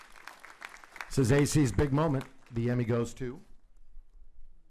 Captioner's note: applauding